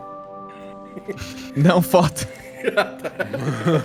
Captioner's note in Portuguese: risadas; risos